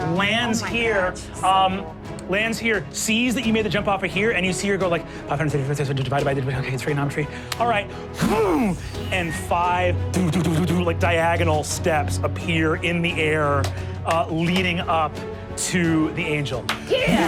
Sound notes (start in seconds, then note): 8.2 whooshing